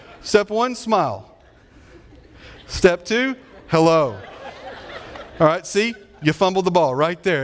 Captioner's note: audience laughing